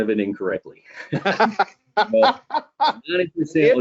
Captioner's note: all laughing